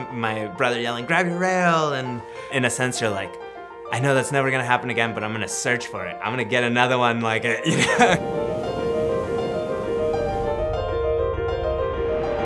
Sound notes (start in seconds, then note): 7.6 laughs; 9.7 soft music